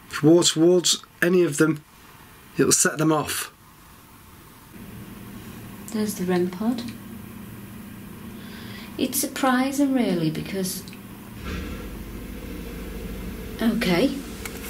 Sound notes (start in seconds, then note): 10.6 electronic whirring